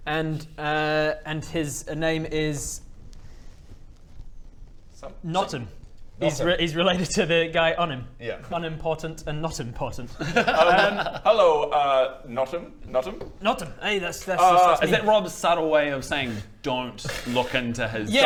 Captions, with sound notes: and err and his name is *thinking noises* Notim he's related to the guy, Unim Yeah Unim Portant and Notim Portant Hello er Notim Notim? Notim, aye, that's me Is that Rob's subtle way of saying don't look into his story